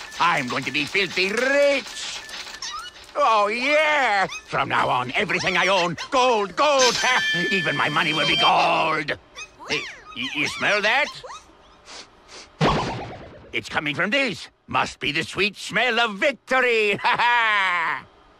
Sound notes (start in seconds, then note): 11.8 sniffs